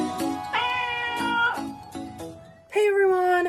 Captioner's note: meowing Cats